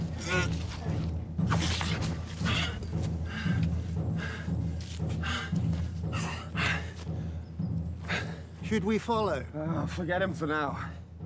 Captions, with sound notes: (Orn grunts) (Orn panting) - Should we follow? - Oh, forget him for now.